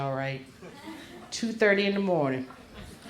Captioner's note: crowd laughs